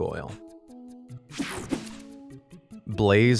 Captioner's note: slide whooshes